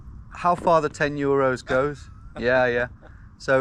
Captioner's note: villager chuckles